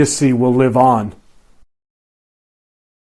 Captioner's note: silence